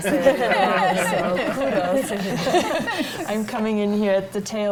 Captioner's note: panel laughs